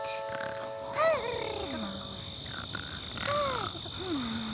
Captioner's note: insects chirping